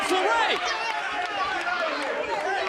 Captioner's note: crowd chatter